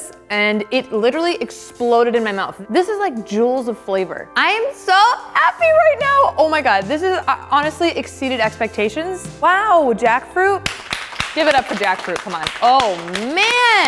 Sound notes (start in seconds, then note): 10.6 applauding